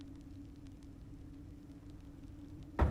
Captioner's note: banging